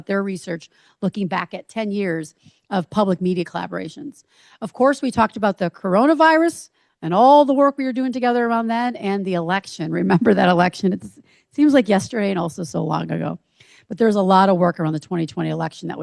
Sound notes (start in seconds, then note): 9.9 chuckles